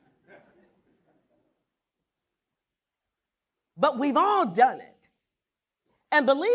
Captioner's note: laughter